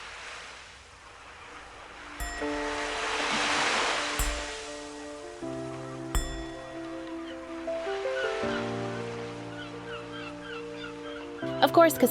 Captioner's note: meditation bowl rings